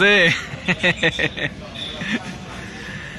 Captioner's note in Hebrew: צחוק